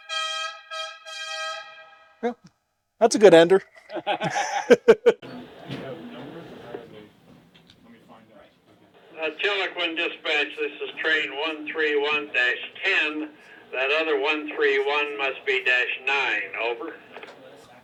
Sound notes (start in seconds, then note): 0.0 train horn sounds; 7.5 radio